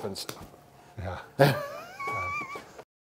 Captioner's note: laughs